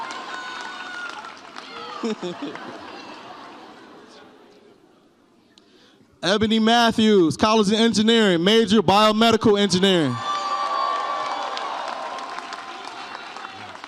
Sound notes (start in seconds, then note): 1.8 laughs